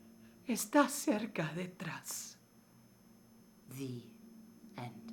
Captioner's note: speaking in foreign language